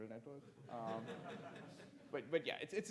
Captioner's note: audience laughs